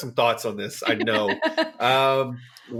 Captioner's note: laughs